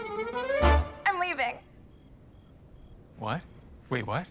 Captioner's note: cricket chirping